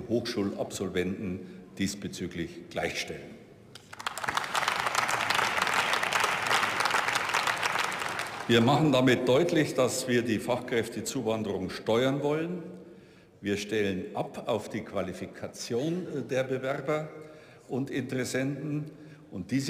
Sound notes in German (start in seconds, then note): 3.7 Beifall